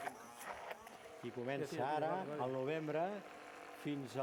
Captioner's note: non-english speech